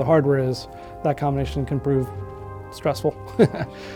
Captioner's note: chuckling